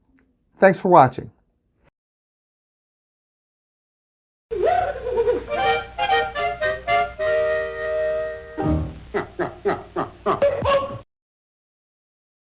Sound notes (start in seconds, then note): 4.4 woman giggling; 4.6 whimsical music; 9.1 man chuckling